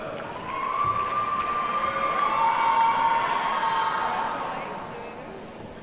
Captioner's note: audience cheers and applauds